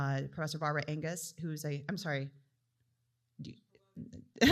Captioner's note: laughs